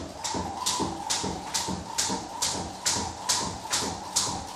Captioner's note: rope whistling